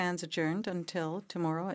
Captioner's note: speaking in French